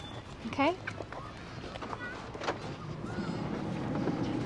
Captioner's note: birds chirping